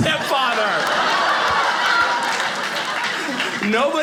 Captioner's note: audience laughing